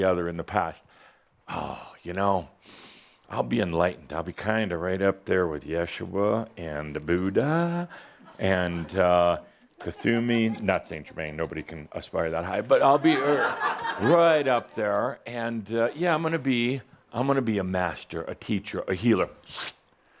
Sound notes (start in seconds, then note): 12.9 laughter